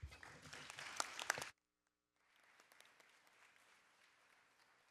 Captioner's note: audience applauding